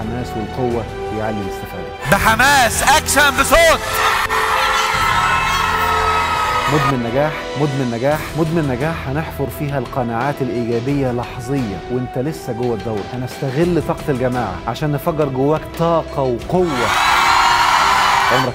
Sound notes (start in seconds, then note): 2.0 crowd screaming!; 16.6 enthusiastic screams!